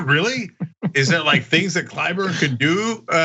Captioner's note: laugh